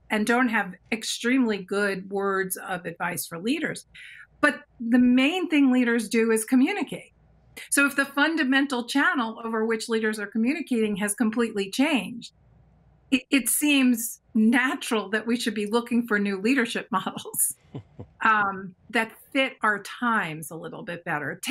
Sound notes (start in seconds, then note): 17.7 chuckles